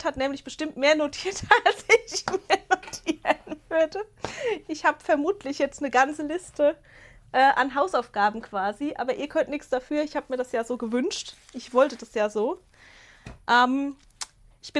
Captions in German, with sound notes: hat nämlich bestimmt mehr notiert, als ich mir notieren [Gelächter] würde. Ich habe vermutlich jetzt eine ganze Liste äh an Hausaufgaben quasi, aber ihr könnt nichts dafür. Ich habe mir das ja so gewünscht. Ich wollte das ja so. Ähm, ich